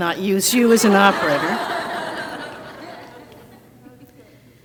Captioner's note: crowd laughs